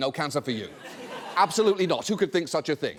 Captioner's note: audience laughs